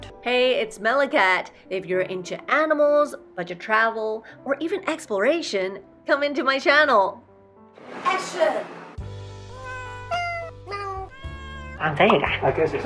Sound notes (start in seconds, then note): 9.5 cats meowing